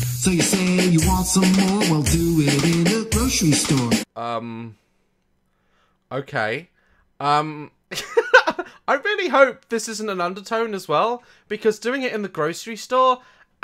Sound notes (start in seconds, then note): 7.5 laughs